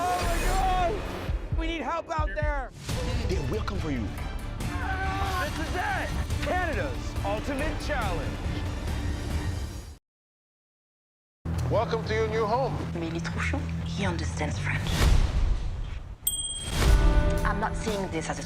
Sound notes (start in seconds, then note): 4.7 screaming